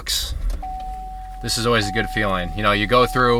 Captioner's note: seatbelt alarm